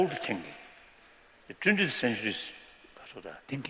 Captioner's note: non-english